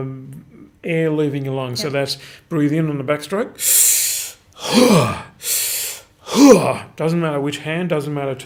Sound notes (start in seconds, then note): 3.6 exhaling; 3.6 inhaling; 6.6 exhaling